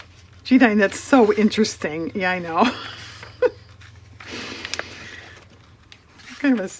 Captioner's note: laughs